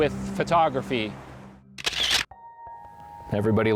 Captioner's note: sound of camera clicking